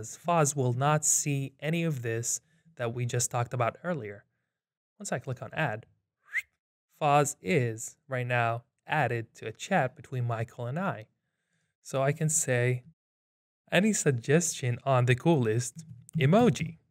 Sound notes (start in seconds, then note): 6.2 whistles